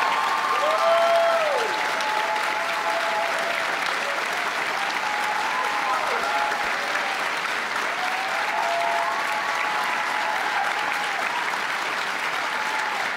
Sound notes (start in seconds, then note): 1.5 applause